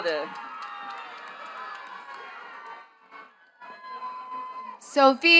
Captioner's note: attendees cheering and clapping